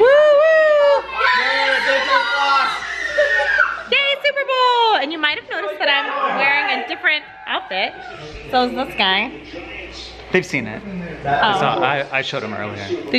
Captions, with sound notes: - Whoo, whoo! - Yeah, Superbowl! (screams) - Yay Superbowl! And you might have noticed that I'm wearing a different outfit, so is this guy. - They've seen it. - Oh. - They saw it, I showed em earlier.